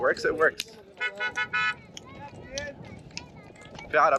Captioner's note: horn honking